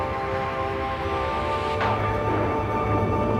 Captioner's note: thunderclap